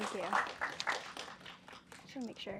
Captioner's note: applause